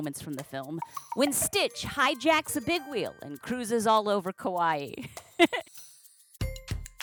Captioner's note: giggle